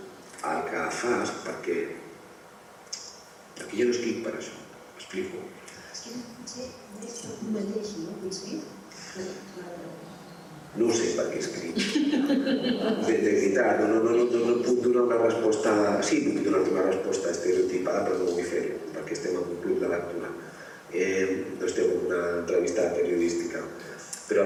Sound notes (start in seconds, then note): 11.7 laughter